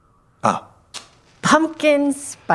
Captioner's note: match lighting